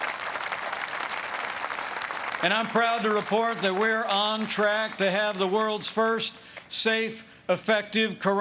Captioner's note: applause